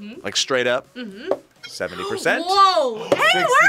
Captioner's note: gasps